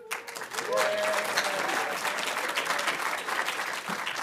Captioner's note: audience applauding